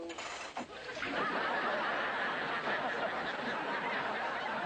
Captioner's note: audience Laughter